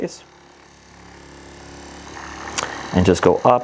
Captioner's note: massage gun buzzing